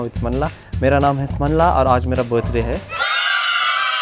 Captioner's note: cheering